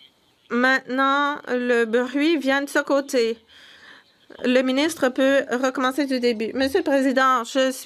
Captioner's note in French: voix de l'interprète